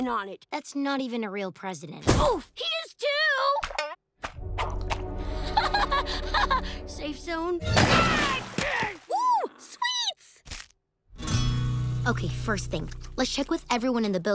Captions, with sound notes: That's not even a real president. Oof. He is, too! [laughs nervously] Safe zone? [screaming] Ooh, sweets. Okay, first thing, let's check with everyone in the building.